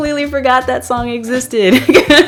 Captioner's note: laugh